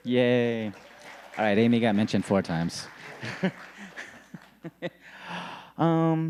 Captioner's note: audience applauding; laughing